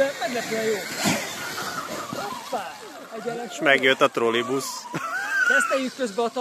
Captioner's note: whirr